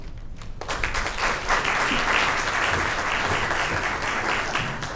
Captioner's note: audience applauds